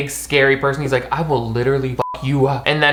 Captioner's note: beep